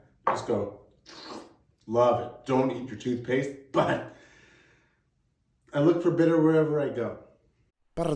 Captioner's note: slurping sound